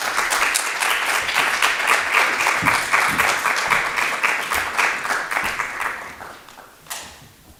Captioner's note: applause